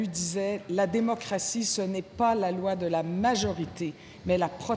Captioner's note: speaking French